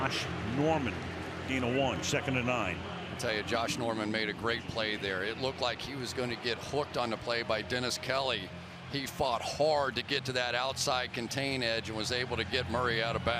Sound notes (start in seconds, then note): 7.6 cheers